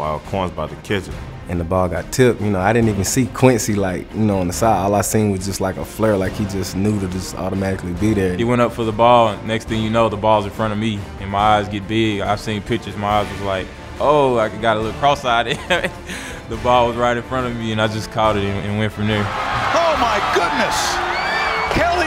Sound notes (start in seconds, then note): 1.6 voiceover; 19.9 voiceover